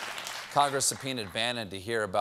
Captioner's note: applause